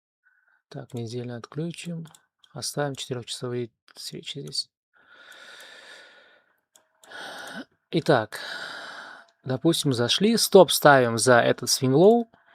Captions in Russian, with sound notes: Так, неделю отключим. Оставим четырёхчасовые свечи здесь. [вздыхает] [тяжело вздыхает] Итак, допустим, зашли. Стоп, ставим за этот свинлоу,